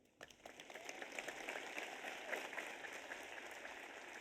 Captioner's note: audience applauds